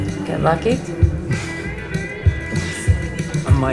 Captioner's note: chuckles